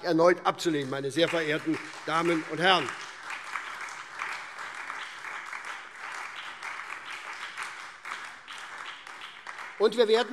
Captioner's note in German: Beifall SPD, DIE LINKE und Freie Demokraten